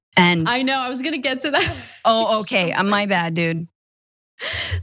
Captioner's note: laugh; laugh